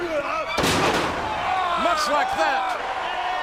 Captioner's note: body thuds